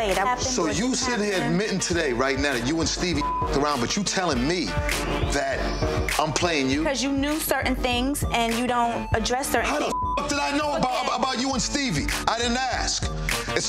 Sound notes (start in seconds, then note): 3.2 beep; 8.2 beep